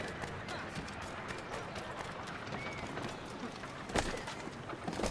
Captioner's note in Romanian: Aplauze